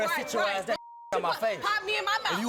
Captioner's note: beep